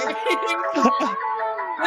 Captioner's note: laughing